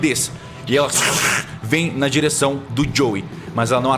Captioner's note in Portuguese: Grunhido